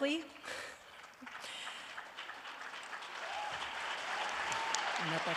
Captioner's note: cheering and applause